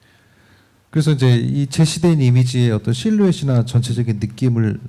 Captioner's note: speaking korean